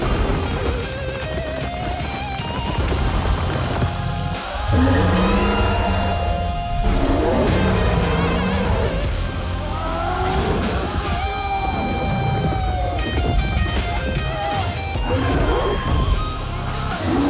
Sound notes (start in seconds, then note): 12.1 dragon roaring